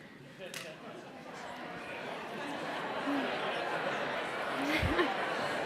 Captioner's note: audience chattering